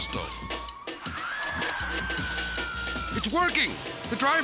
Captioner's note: tires screech